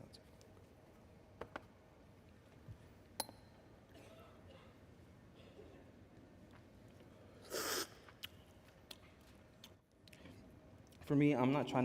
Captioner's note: slurping